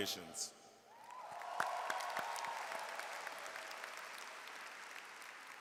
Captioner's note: audience cheers and applauds